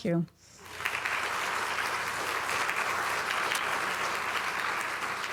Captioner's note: audience applauding